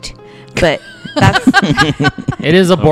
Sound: laughter

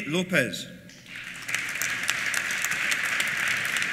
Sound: applause

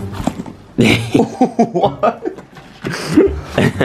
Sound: laughter

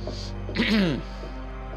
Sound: cough

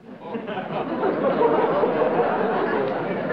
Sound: laughter

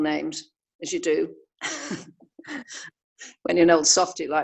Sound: laughter

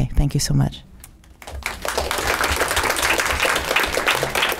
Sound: clapping

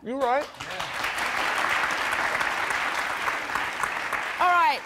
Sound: audience applauding

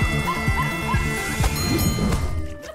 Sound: music playing, screaming; dinging; laughing

